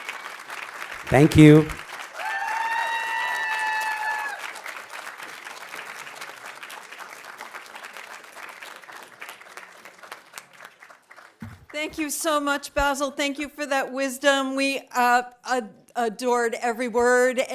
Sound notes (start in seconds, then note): 4.1 audience applauding; 4.1 audience cheering